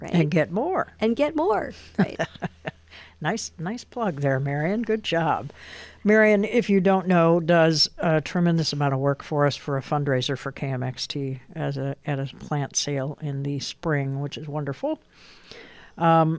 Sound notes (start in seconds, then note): 1.9 laughs